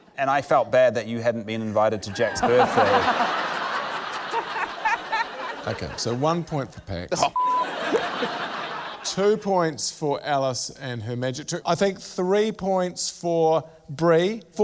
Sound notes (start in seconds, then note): 2.1 laughter